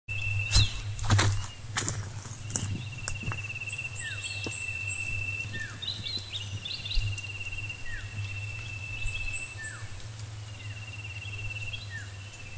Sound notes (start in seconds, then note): 0.3 footsteps